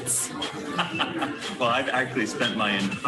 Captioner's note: man laughs